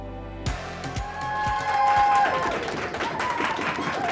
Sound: audience cheering

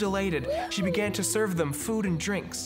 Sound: cheering

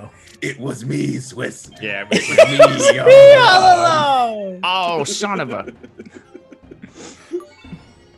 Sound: laugh; laugh

